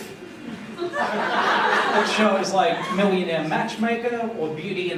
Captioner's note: laughter